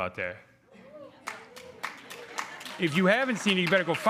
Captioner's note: crowd clapping